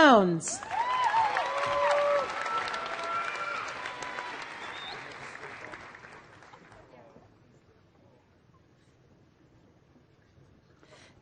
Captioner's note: applause